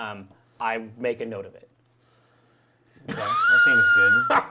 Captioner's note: laughs